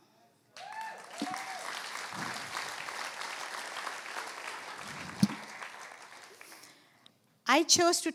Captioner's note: applause